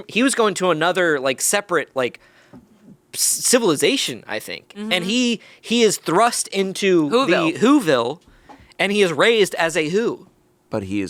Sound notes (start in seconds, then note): none